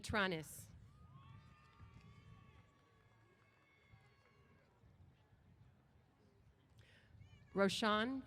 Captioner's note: cheers